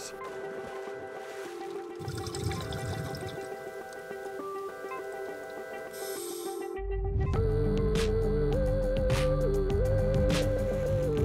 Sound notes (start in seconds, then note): 2.0 sounds of scuba breathing